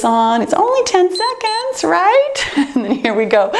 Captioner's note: timer beeps